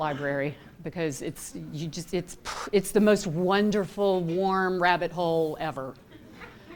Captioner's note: laughter